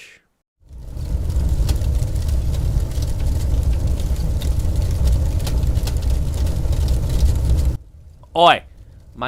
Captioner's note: flames roar briefly